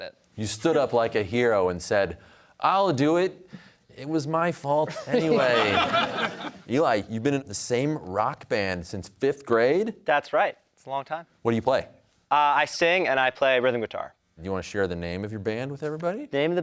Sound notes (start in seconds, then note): 4.8 laughter